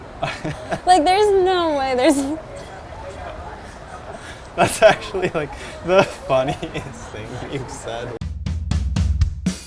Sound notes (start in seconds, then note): 3.8 laughing